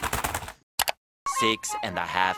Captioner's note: keyboard pain sounds; click